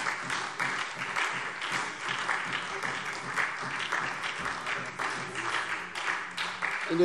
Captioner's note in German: Beifall SPD